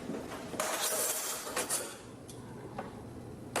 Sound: clinking

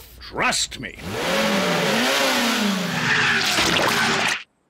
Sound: revs engine

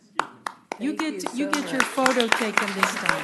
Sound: clapping

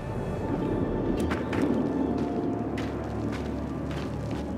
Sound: wind howling

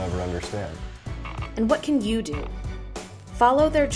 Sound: voiceover

